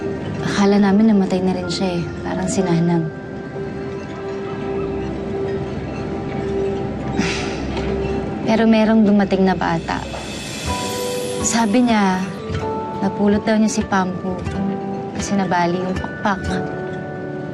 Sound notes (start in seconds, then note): 7.1 sighs